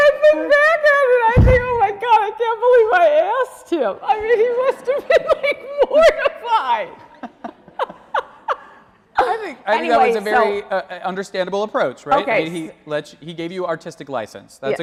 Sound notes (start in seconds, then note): 7.1 laughing